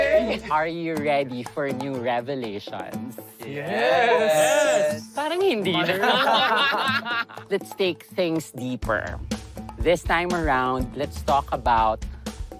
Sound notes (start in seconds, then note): 5.7 everyone laughs